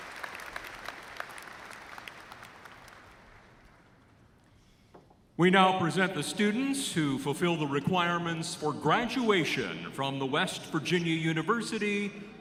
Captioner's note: applause